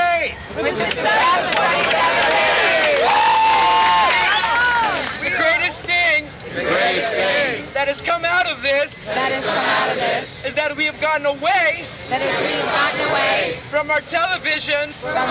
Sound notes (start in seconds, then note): 2.7 cheering